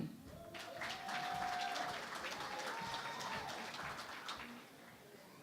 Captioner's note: cheering and Applause